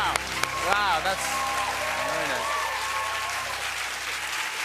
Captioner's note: cheers and applause